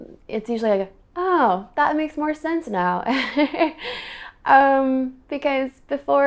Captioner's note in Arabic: يضحك